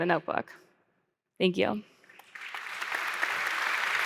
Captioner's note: applause